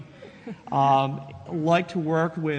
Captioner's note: chuckles